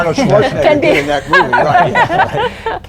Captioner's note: laughter